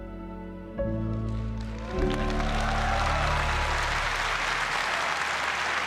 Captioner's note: applause